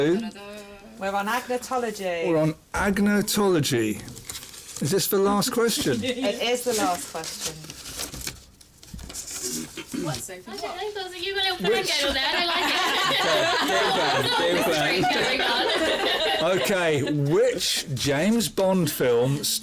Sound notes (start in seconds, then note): 13.6 laughter